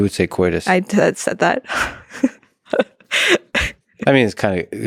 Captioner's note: laughs